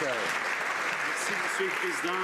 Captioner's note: some Applause